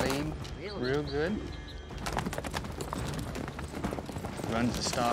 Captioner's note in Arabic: ضربات حوافر